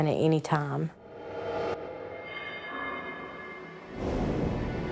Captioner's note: swooshing